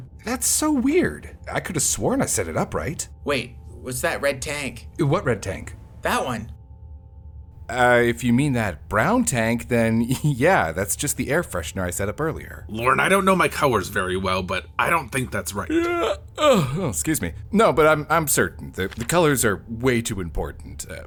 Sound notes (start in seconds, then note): 15.6 yawns suspiciously